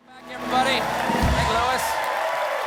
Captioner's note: applause